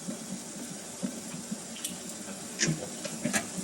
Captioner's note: mixer whirring